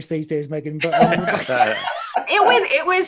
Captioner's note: all laugh